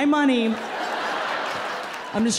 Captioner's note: audience laughing